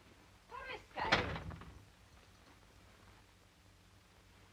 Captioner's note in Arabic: آنا تتحدث بلغة أجنبية; يغلق الباب